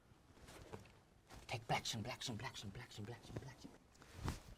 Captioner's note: whispering